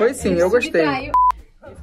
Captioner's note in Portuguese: som de bipe